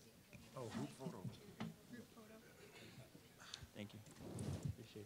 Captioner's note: general chatter